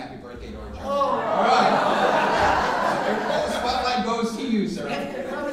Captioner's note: audience responding and laughing